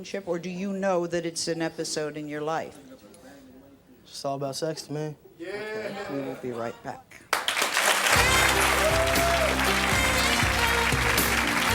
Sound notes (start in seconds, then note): 7.3 audience applauds; 9.6 lighthearted music